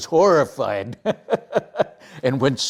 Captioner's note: laughing